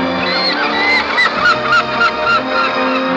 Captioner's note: seagulls scream